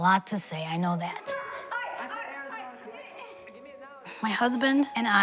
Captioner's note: lively, indistinct conversation